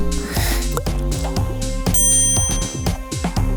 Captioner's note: plastic clicks; inhales; dings